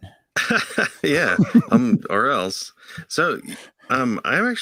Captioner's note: laughs